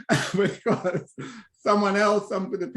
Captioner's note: laughs